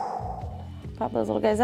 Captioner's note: exhales